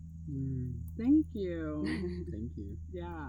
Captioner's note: chuckles